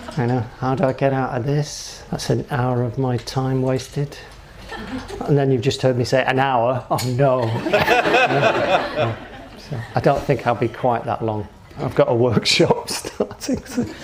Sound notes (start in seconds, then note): 7.4 audience laughing